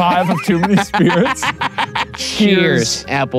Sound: laughing

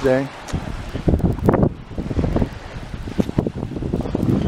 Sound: wind whooshing

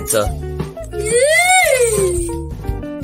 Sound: Magenta Crying

